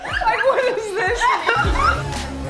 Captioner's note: laughter